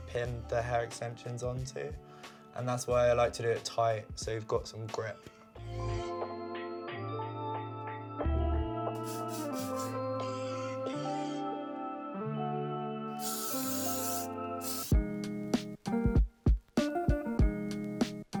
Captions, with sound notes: pin the hair extensions onto. And that's why I like to do it tight, so you've got some grip. [gentle upbeat music] [hairspray spraying] [gentle upbeat music] [hairspray spraying] [gentle upbeat music]